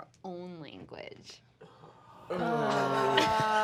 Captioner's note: group groaning